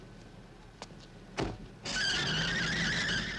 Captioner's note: tires screeching